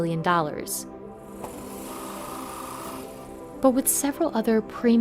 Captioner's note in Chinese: 電鑽聲